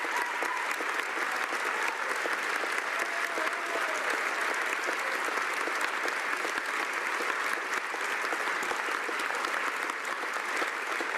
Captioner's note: cheering and Applause